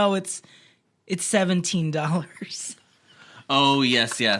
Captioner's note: laughs